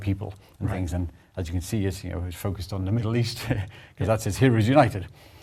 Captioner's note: laugh